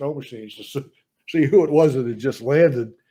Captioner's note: laughs